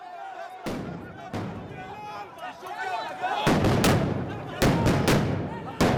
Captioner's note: crowd yelling and explosions